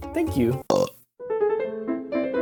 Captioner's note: burp